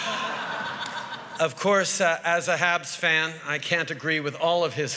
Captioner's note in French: Rires